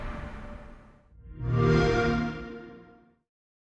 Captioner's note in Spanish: xbox sound